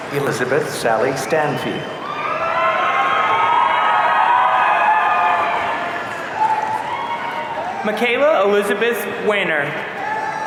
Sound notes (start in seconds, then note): 2.0 audience cheering